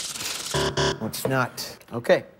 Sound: buzzer

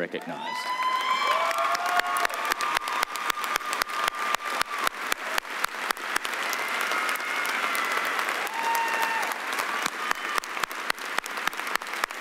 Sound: cheering and applause

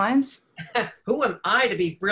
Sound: laughs

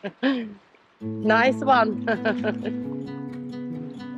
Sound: laughs; laughs

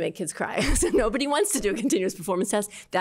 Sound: laughter

